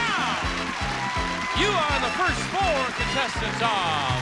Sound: cheering

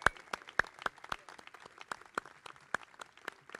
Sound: crowd clapping

